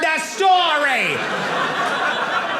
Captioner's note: audience laughing